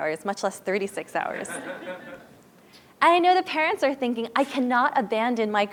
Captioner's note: laugh